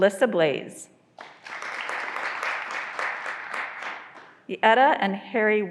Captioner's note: graduands applauding